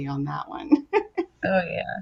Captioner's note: giggling